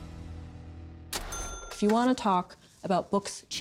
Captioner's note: cash register dings